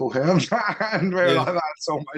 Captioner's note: laughs